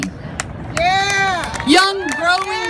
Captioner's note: applauds